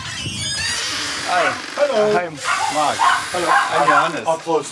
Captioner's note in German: Sie begrüßen sich, ein Hund bellt; englisch